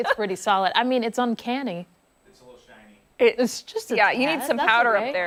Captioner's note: laughter